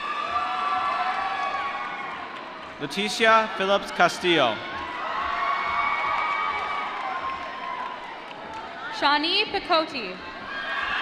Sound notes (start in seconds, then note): 0.6 applause; 5.3 applause